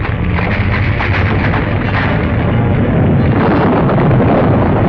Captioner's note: boulders breaking free